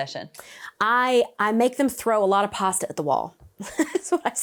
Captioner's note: chuckles